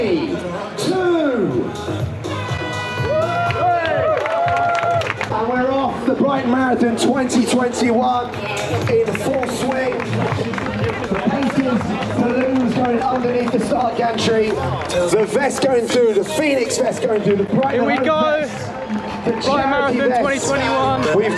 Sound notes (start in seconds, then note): 1.8 fog horn; 2.2 crowd cheers; 10.7 crowd claps as announcer continues